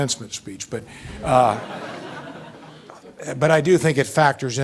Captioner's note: audience laughing